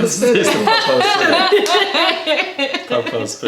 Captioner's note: laughter